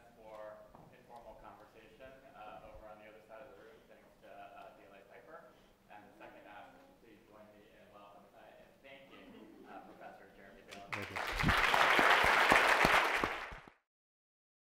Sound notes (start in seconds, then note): 4.3 speaks faintly; 10.8 audience applauding